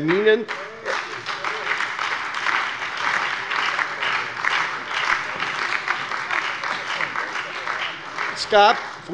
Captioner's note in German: Beifall bei der SPD, der FDP und der LINKEN